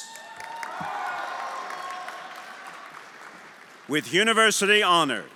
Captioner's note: everyone applauding and cheering